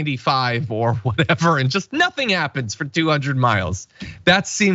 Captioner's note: laugh